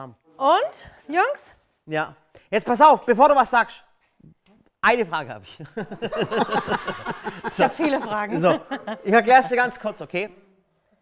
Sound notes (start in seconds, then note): 5.7 Lachen